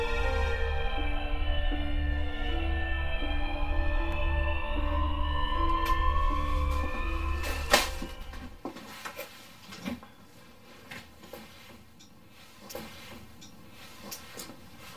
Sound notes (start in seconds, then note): 1.5 ambulance siren sound; 1.5 suspense music playing; 5.8 rustling sound; 7.7 thud; 8.5 footsteps